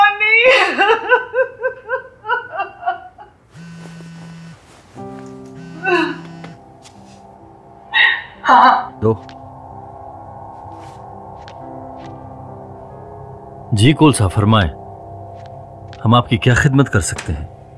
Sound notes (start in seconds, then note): 3.5 phone vibrating